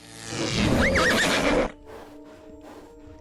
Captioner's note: Revin whinnies